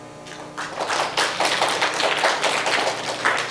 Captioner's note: applause